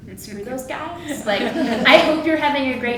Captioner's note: audience laughs